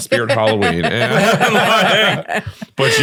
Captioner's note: all laughing